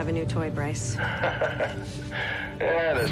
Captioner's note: Brice laughs